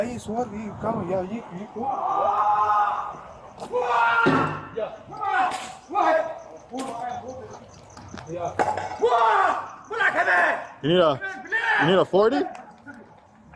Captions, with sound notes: (Yelling) You need a, You need a 40?